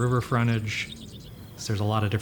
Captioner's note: birds chirping